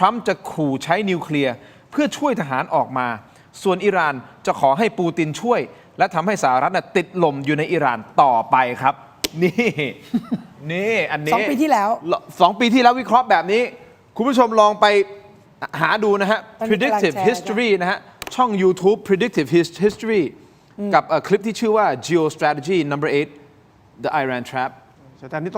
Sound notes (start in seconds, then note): 9.4 laughter